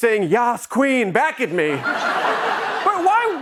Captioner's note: laughter